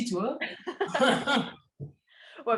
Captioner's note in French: rires